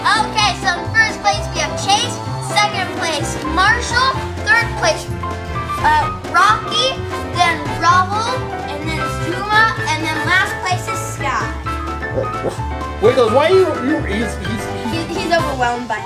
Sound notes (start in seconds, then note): 12.1 Wiggles barks